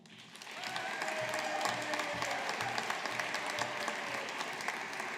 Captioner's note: audience applauding